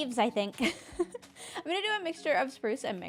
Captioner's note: laughs